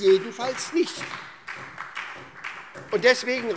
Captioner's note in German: Beifall SPD und vereinzelt DIE LINKE